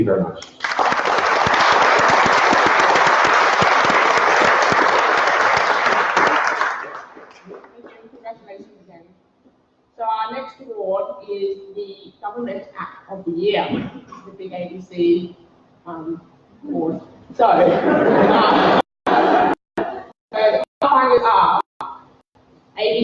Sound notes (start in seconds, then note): 0.4 applause; 13.8 laughter